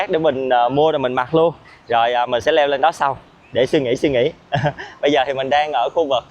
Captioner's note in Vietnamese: tiếng cười